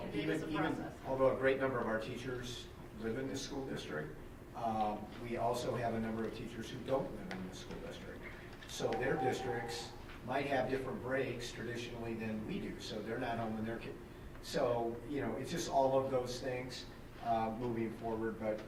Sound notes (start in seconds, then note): none